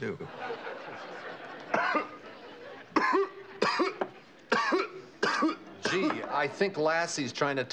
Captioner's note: continuous coughing